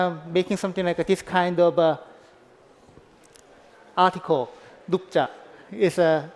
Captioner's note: korean